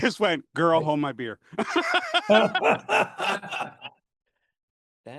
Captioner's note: laughter